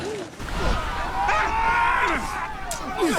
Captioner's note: both screaming